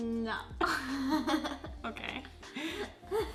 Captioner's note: laughs; laughs